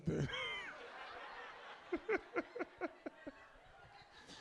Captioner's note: audience laughs